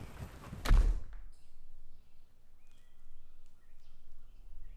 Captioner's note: thumping; chirping